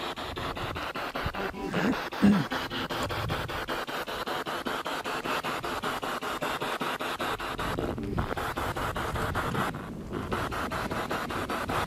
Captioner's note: radio noise from the spirit box